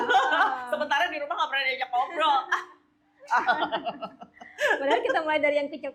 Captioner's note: laugh